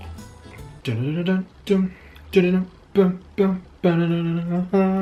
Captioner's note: hums Pokemon theme